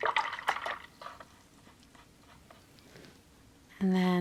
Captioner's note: water gurgles